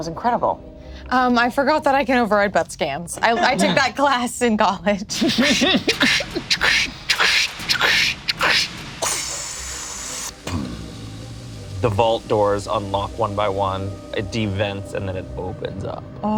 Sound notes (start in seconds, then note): 5.5 imitates depressurization